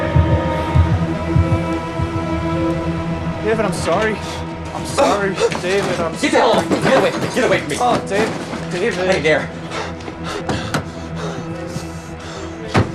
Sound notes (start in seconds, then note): 9.4 David panting; 12.7 car door closes